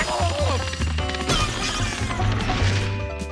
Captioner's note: alien groans; man grunts